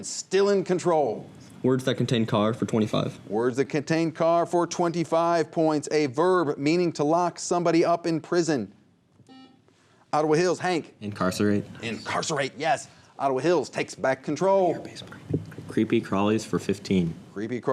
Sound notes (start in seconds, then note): 9.2 buzzer; 15.1 whispers